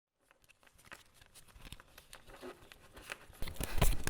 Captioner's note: cards shuffling